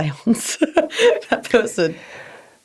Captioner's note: laughs